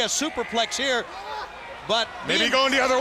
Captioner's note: crowd chatter